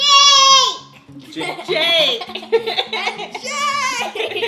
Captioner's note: laughs